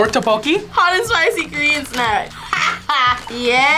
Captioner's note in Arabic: يضحك